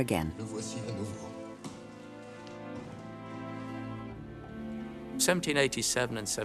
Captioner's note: melancholy music; Louis XVI speaking in French